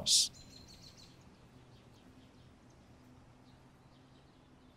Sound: birds tweeting

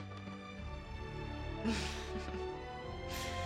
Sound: laughs

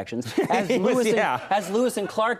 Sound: laughs

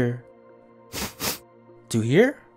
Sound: sniffing sound

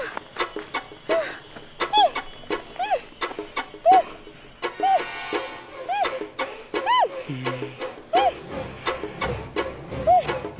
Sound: Chinni continues grunting

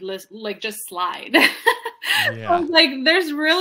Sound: laughs

